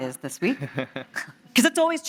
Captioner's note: laughing